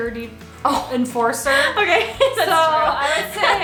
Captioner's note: laughs